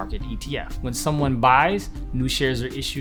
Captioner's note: whooshing